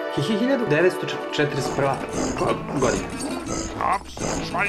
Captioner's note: stuttering